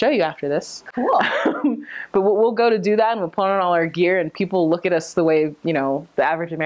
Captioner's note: laughing